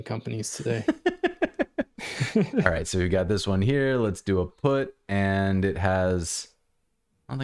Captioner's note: laughter